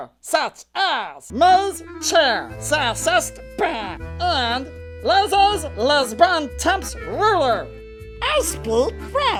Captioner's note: horribly pronouncing the words